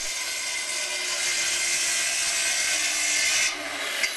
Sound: machine whirrs

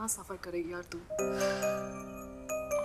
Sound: sighs

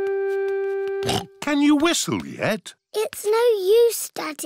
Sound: snorts

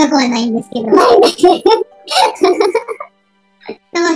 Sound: laughs

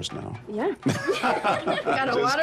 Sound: laughter

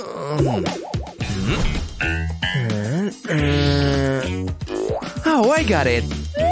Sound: making happy sounds

